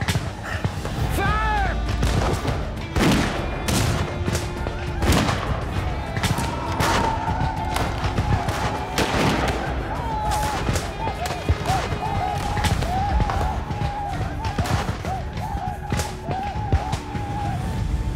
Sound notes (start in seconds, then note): 0.0 gunshots, whooping; 2.5 gunshots, whooping